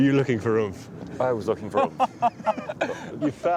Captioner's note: all laughing